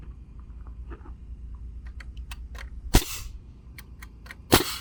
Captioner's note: nail gun shooting